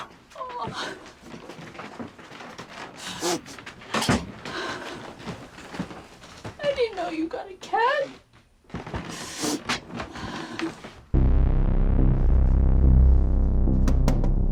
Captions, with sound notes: - Oh. (sniffling) I didn't know you got a cat. (dramatic music)